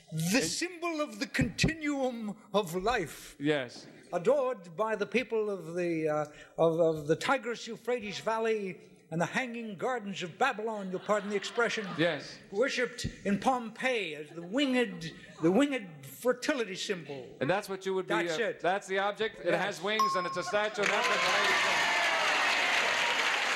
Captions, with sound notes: The symbol of the continuum of life, adored by the people of the...of... the Tigris Euphrates Valley and the Hanging Gardens of Babylon-- you'll pardon the expression. -Yes. -Worshiped in Pompeii, the winged... the winged fertility symbol. -And that's what you would be-- that's the object that has wings and it's a statue? [applause]